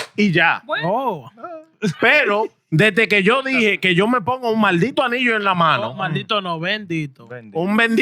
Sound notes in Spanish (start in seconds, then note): 1.7 Hablando en idioma extranjero